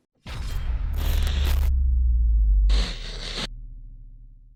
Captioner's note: glitchy crackling